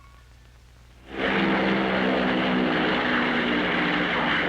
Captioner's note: plane engine roaring